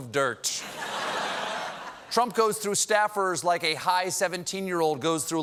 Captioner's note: laughter